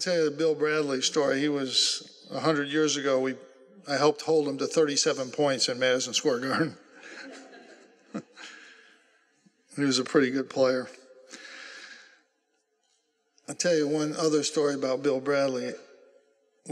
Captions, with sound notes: I'll tell you the Bill Bradley story. He was, 100 years ago, I helped hold him to 37 points in Madison Square Garden. (laughter) And he was a pretty good player. I'll tell you one other story about Bill Bradley.